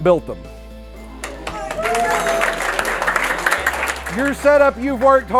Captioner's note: clapping and cheers